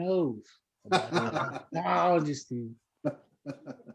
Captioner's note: laughter